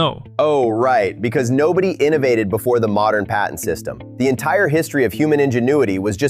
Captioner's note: sarcastically